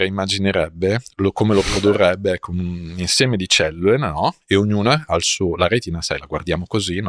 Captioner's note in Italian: sbuffare